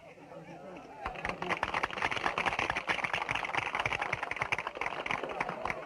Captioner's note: audience applauding